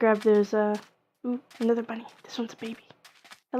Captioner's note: whispering